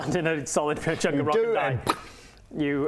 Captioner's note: pop